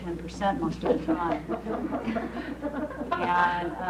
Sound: laughing

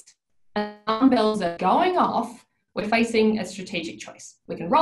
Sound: audio distorts

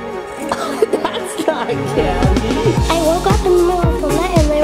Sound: laughing

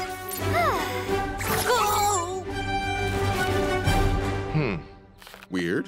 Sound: Cavu sighs

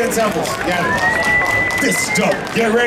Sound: audience cheering

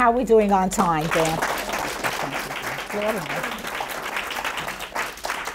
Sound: audience applauds

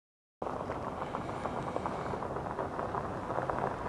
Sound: wind blowing

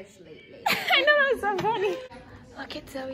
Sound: laughs

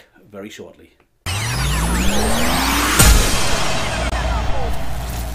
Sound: tape rewinding

